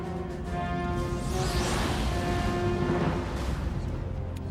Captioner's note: rocket engine